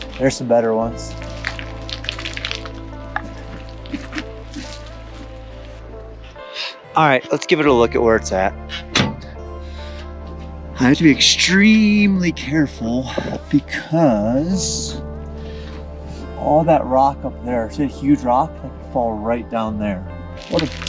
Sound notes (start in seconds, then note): 2.3 falling rocks; 4.4 relaxing music